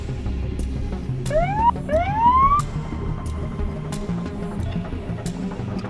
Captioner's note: police siren